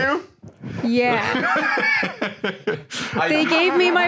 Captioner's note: laughs